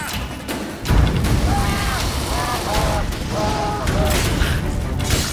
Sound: flames crackle; scream

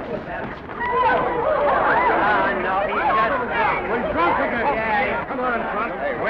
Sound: mayhem

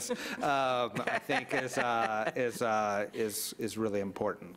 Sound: audience laughs

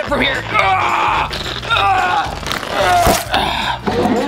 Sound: groaning

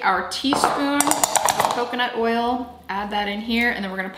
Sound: teaspoon clanking

